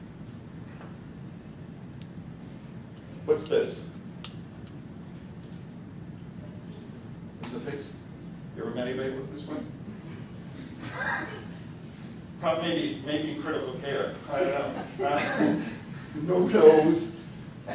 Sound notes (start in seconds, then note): 14.7 laughter